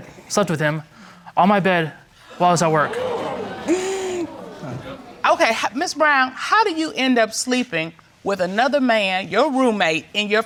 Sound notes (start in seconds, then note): 3.9 audience exclaiming